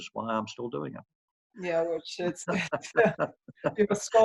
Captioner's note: laughing